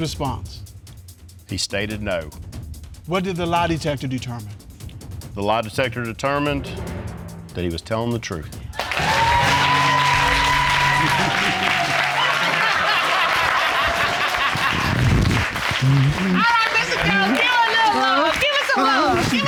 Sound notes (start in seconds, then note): 9.6 audience cheering; 13.6 judge laughing